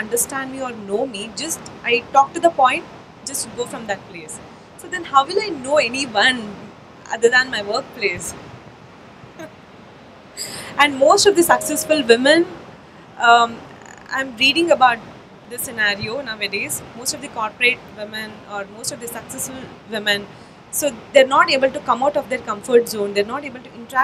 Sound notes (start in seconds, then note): 10.0 laughs